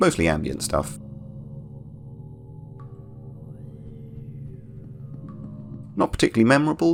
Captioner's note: ambient Droning and Drips